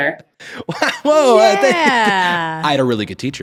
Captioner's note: chuckles